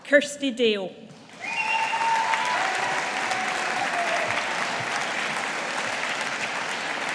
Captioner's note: audience applauding